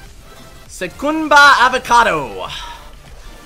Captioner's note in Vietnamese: Tiếng Bồ Đào Nha